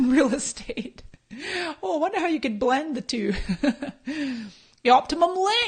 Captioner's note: laughs